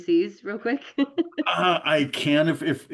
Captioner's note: laughs